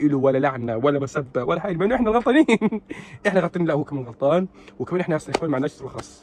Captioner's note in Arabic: ضحك